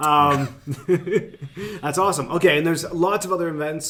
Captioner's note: laughing